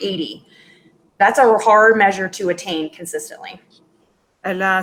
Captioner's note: speaking in Foreign Language